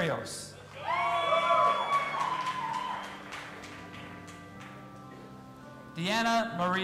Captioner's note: audience applauding and cheering